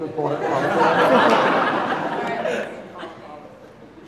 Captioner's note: audience laughing